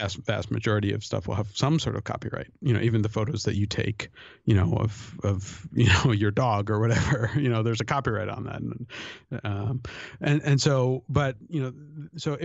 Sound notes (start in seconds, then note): 9.0 chuckle